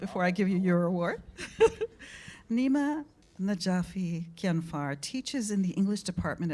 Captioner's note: laughs